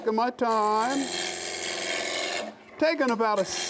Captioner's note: wood scrapes